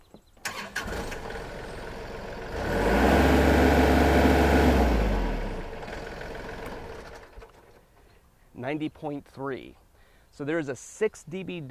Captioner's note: engine starting